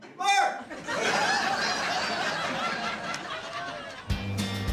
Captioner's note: laughter